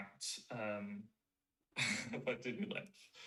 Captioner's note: chuckles